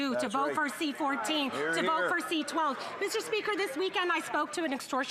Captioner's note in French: voix de l'interprète